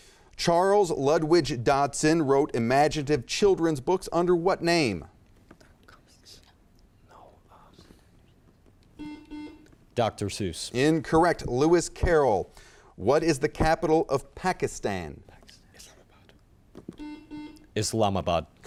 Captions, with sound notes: Charles Lutwidge Dotson wrote imaginative children's books under what name? - Dr. Seuss? - No. - No. (buzzer chimes) - Dr. Seuss. - Incorrect, Lewis Carroll. What is the capital of Pakistan? - Pakistan. - Islamabad. (buzzer chimes) - Islamabad.